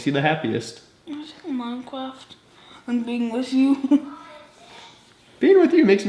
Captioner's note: giggles